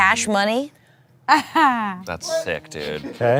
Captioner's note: laughs